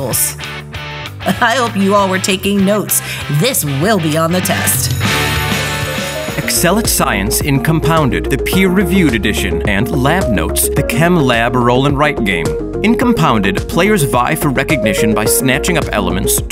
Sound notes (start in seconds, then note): 4.6 school bell rings; 4.9 modern music